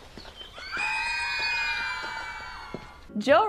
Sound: women screaming

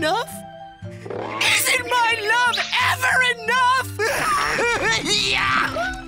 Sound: cries

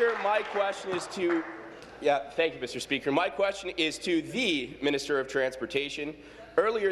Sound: cheers; applause

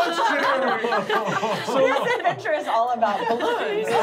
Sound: laughing

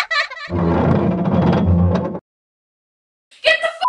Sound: laughter; metal creaking

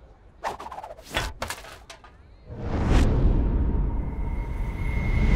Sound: trash can clangs

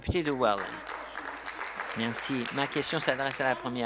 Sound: applause

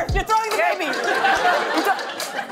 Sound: laughter

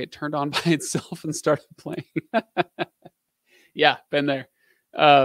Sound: laughing

